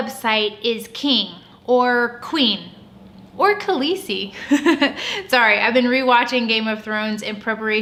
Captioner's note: laugh